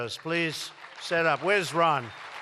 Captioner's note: applause